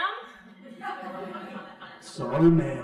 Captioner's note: crowd laughing